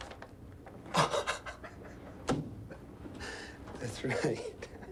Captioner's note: Mark laughing